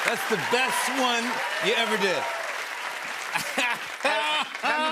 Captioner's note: chuckles